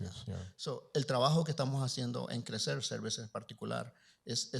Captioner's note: Spanish language